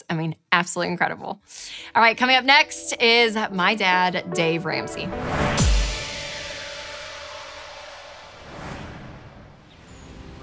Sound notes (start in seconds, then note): 1.9 calm music; 5.2 whooshing